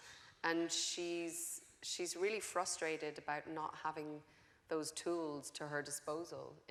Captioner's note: none